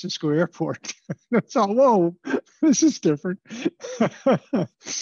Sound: laughter

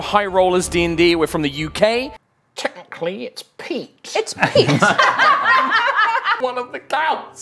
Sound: laugh

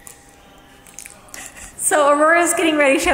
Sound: speaker giggling

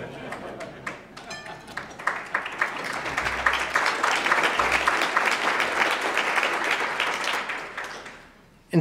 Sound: applause

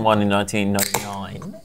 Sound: can opens

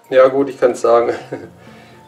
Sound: laughs

